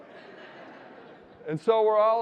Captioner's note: audience laughing